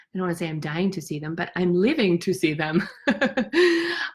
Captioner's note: laughs